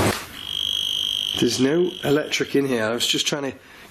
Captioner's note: metre beeping